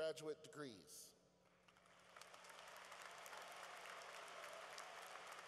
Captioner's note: applause